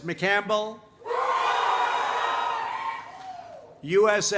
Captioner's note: applause